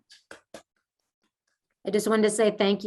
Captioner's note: person clapping